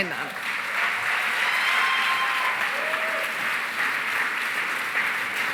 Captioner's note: cheering, applause